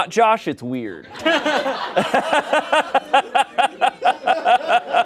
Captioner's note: everyone laughs